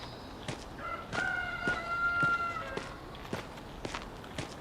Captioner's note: rooster crowing